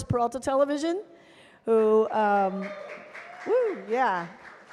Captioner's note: cheers and applause